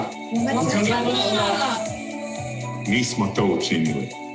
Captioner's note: speaking in foreign language